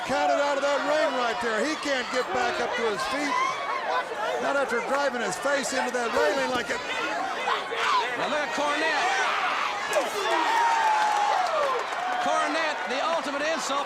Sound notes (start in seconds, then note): 9.3 crowd cheering